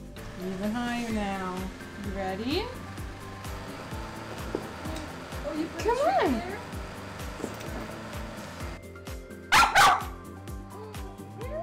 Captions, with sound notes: Even higher now. You ready? Come on! *Sophie barks*